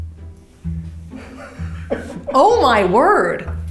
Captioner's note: laughs